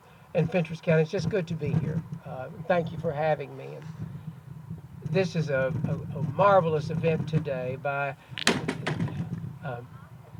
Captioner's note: flag falls